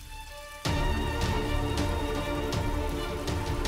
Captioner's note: water splashing